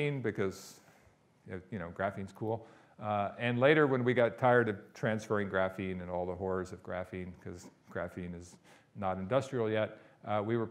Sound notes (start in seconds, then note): none